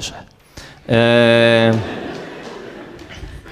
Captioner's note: laugh